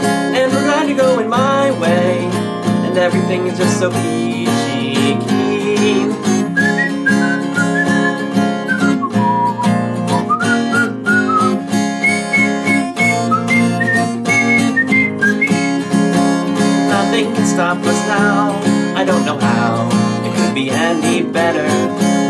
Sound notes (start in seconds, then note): 6.4 whistling